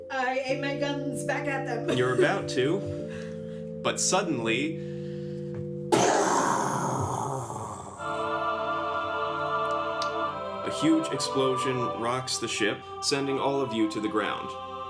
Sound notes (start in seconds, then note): 5.8 string Music; 6.0 explosion